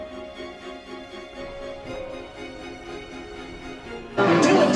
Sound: nyoom

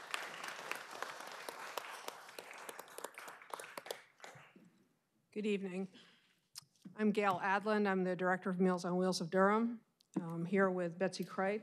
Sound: applause

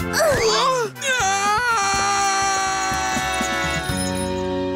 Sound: yells

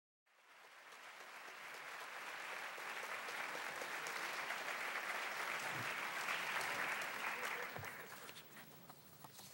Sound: applause

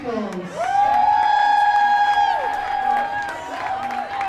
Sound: cheering

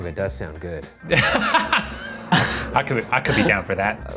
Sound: laugh

